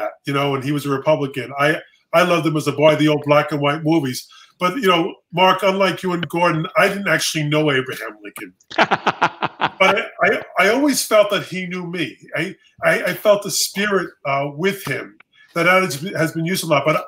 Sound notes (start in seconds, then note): 8.7 laughs